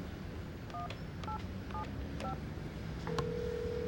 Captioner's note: ringing